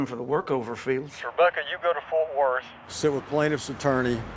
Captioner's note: on phone